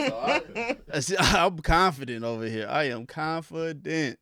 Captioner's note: laughing